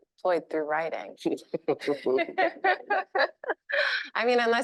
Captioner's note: chuckling